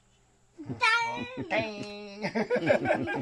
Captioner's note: speaking Yanomami; child speaking Yanomami; speaking Yanomami; all laughing